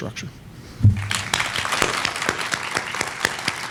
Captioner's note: applause